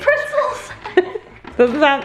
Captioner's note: both laugh